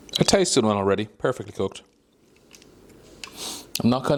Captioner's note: none